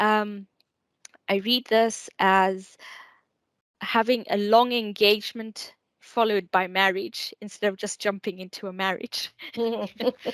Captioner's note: giggles